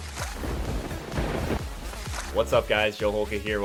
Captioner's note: upbeat music; lightning strikes